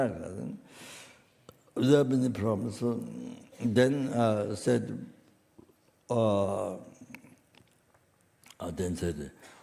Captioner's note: in French then translated